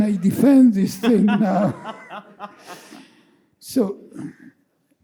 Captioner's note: laughing